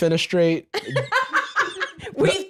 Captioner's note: cackles